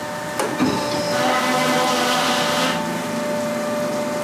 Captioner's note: loud machine whirring